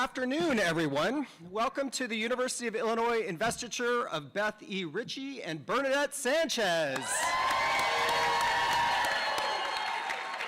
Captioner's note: cheers and applause